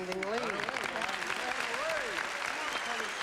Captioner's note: applause